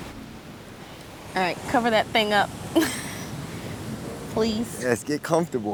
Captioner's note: laughs